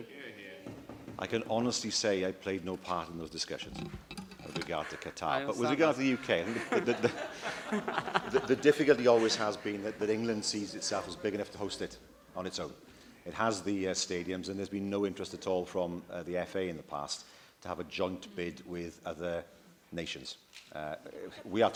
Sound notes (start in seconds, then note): 6.0 laughter